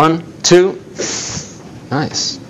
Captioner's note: short sizzle